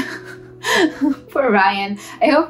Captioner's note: laughs